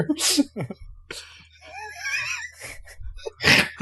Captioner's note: laughter